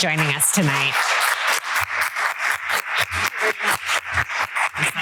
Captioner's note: applause